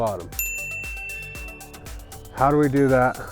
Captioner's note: ding